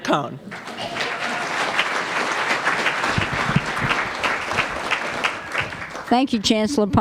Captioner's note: applause